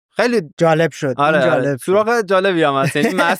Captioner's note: laughs